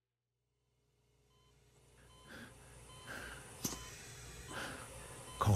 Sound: panting; heart monitor beeping

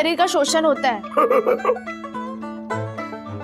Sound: laughing

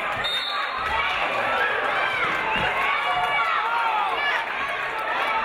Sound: referee blows whistle

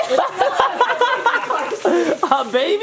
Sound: parents laughing

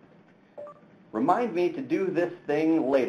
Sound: tablet beeps

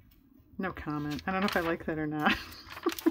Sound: laughs

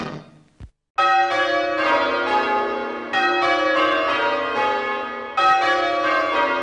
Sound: church bells ring

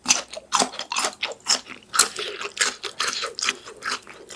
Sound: crunch crunch

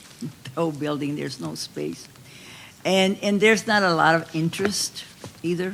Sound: none

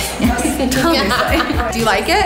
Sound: laughing

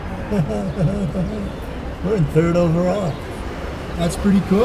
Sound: laughs

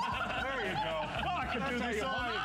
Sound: laughter

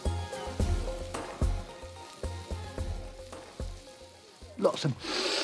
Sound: sizzling

